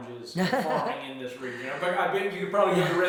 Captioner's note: laughs